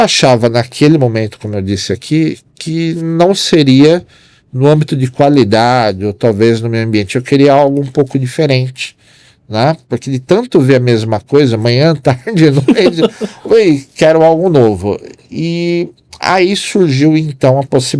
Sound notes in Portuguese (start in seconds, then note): 12.4 risadas